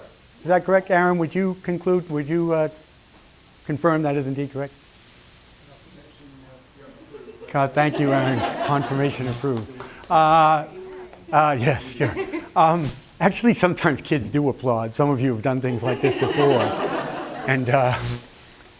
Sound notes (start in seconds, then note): 7.0 laughter; 9.5 claps; 15.7 laughter